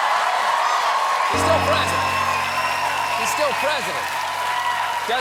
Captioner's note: cheers and applause